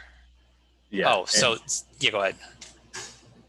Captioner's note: indistinct chatter